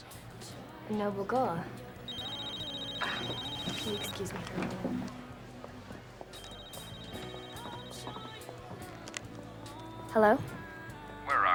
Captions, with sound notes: A noble goal. [phone ringing] Can you excuse me. Hello?